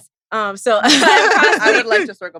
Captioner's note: laughs